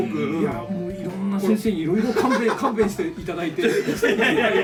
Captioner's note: laugh